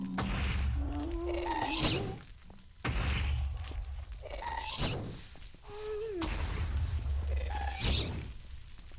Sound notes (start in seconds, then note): 0.0 shrieking and explosions continue; 0.8 grunting continues